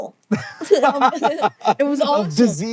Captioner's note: BOTH laugh